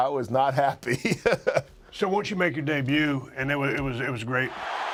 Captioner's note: laugh